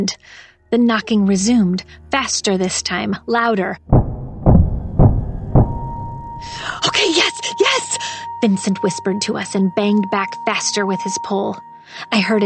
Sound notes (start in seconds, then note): 3.9 knocking